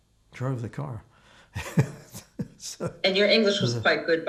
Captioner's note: laughing